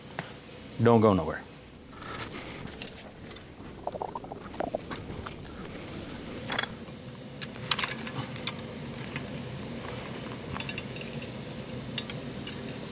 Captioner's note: engine Revs; imitates Popping